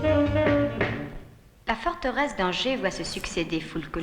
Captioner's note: speaking french